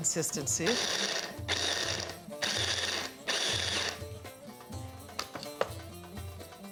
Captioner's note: pulsing